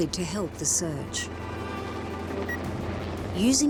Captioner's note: slow bleeping